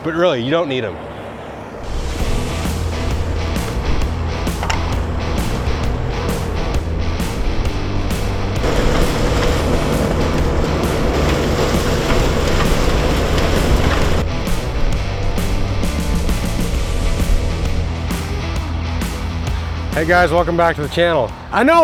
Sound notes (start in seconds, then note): 2.3 upbeat music; 8.2 tools buzz; 11.4 upbeat music continues